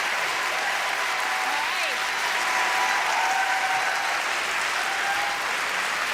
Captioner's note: applause and cheering; applause and cheering